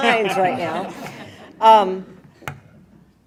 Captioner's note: laughing